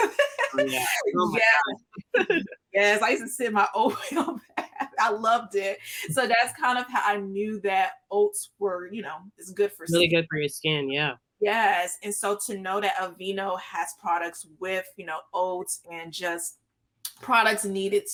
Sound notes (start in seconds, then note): 3.8 laughs